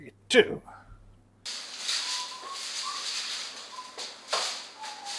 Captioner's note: whistling